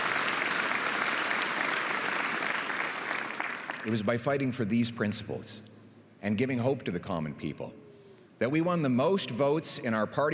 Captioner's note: applause